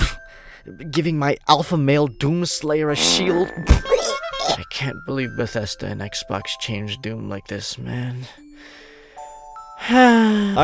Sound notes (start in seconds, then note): 2.8 throws up; 9.4 dramatic sigh